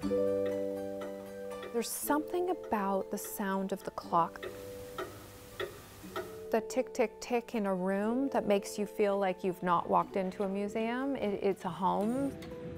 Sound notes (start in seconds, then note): 0.0 clocks Ticking; 4.9 clock ticking